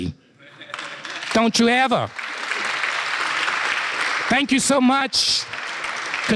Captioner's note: applause